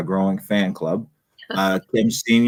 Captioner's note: laughs